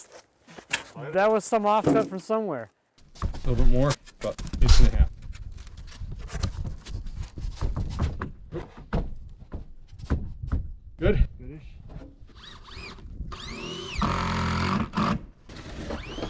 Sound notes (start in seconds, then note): 7.7 plywood rattling; 13.3 drill grinding; 13.3 drill whirring